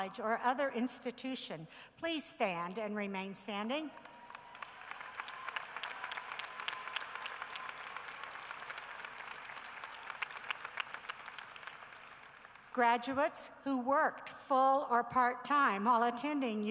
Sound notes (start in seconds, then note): 4.0 cheering and applause